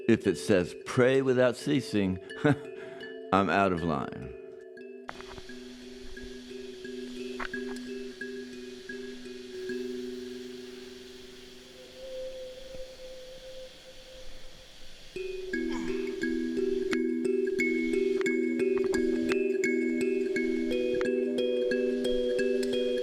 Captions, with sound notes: If it says pray without ceasing, I'm out of line. (water hissing) (dramatic music)